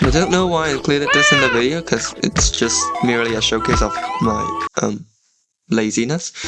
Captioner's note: sighs